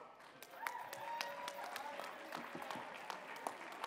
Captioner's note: cheering and applause